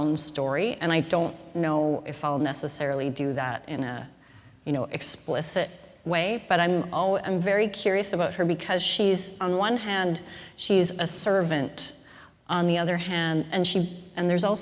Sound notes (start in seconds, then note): none